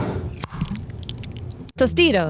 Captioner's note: jar sliding; salsa pouring; lid opening